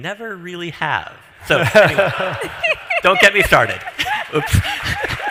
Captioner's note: laughs